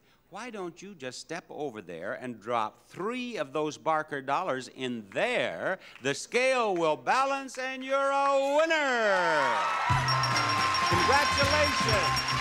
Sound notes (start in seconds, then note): 10.0 game dinging